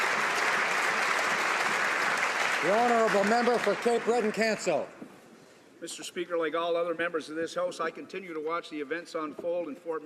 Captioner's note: applause